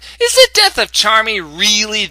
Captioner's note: none